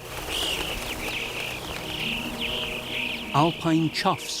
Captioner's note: birds twittering